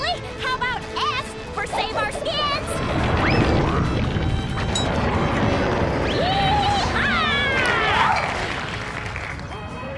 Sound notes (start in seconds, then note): 4.8 roaring; 7.5 applause